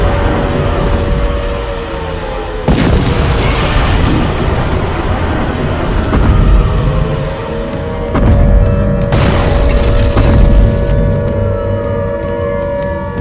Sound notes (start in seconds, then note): 3.4 loud explosions with sirens in the distance